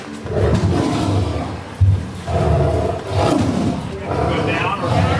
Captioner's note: tiger roaring